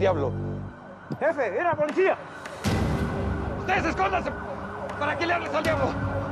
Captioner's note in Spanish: sirenas a la distancia